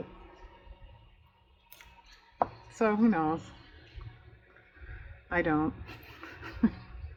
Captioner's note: laughs